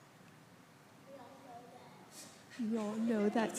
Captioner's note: speaking faintly